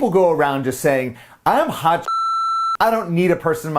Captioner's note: beep